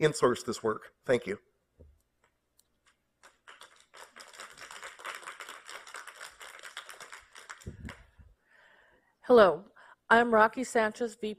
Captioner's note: applause